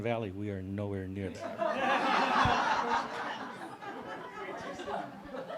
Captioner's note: audience laughs